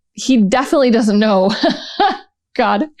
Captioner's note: laughter